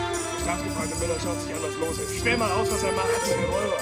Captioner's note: speaking german